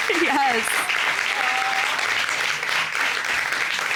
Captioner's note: audience applauding; chuckles